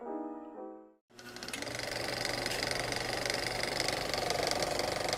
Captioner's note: film projector whirring